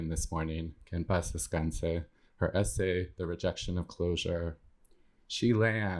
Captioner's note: speaking spanish